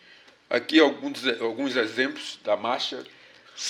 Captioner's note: speaking portuguese